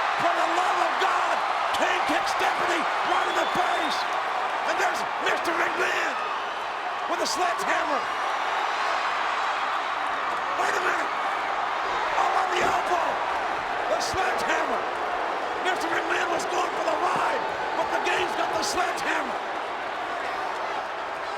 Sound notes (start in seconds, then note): 8.4 applause